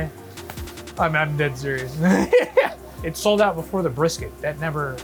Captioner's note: laughs